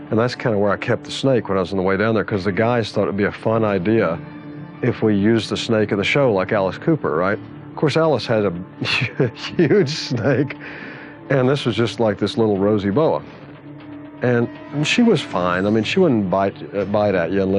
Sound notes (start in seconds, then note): 8.8 chuckling